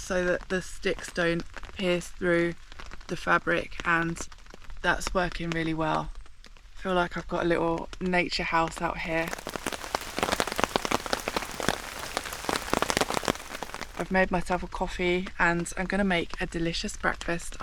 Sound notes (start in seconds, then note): 9.0 rain